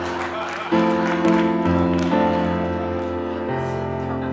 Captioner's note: audience laughing; audience applauding; gentle bright music continues